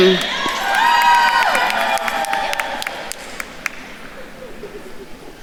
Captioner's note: attendees cheering and applauding